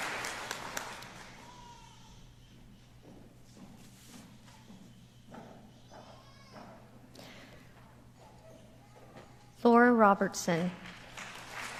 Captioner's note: applause